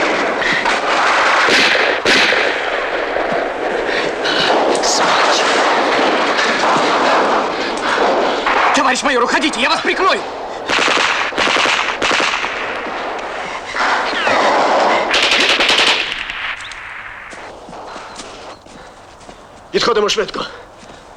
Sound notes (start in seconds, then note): 7.1 in russian